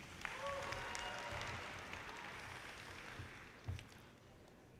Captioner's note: audience cheers and applause